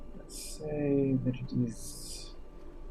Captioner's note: none